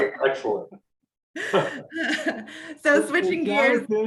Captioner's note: laughs